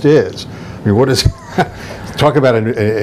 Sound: laughs

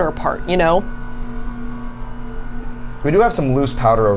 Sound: machine whirring

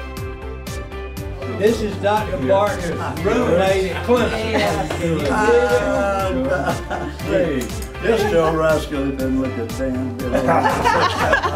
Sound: laughing

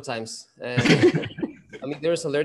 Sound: scattered laughing

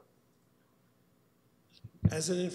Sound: audio drop

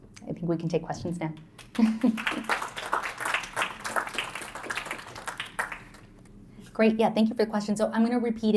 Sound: applause

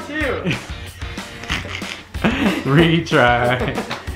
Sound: laughing

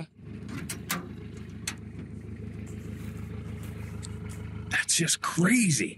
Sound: engine revving

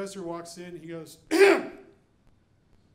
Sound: clears throat

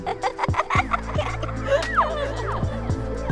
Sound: laughs

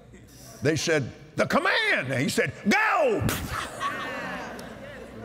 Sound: laughter & Agreement

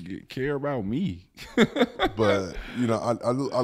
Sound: laughs

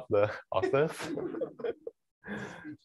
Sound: laughter

